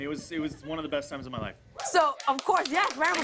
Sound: cheers and applause

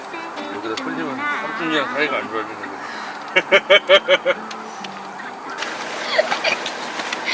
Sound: laughs

